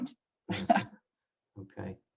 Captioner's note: laughs